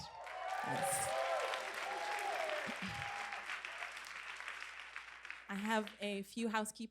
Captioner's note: applause and cheers